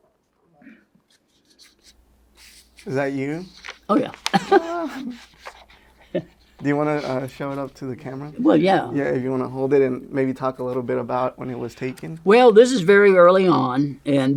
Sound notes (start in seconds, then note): 4.0 laughs